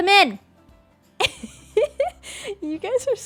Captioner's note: laughs